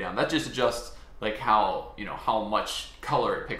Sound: none

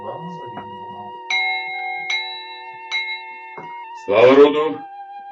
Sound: ding-ding-ding

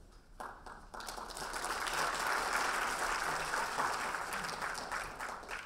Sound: audience applauding

